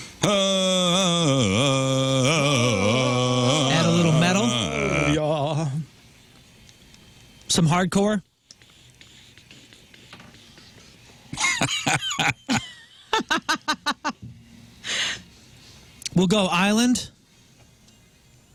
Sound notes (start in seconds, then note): 11.3 laugh; 17.8 blank Audio